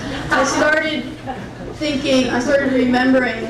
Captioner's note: crowd laughing